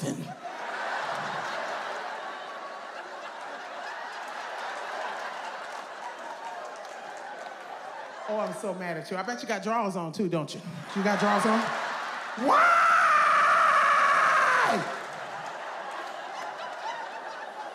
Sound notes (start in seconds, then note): 0.0 audience laughs; 10.5 audience laughs; 12.4 screams; 14.1 audience laughs